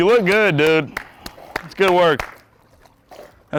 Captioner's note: clapping